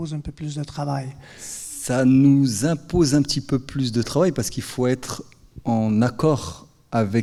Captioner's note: speaking in French